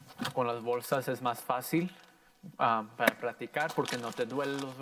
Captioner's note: plastic popping; in foreign language